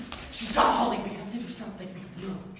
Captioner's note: none